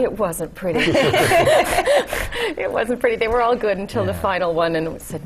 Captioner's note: laugh